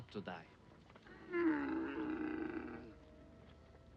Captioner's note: camel groans